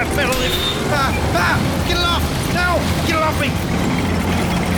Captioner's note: panicked american noises